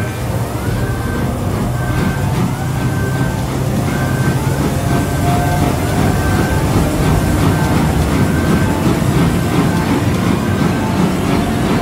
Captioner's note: warp engines accelerate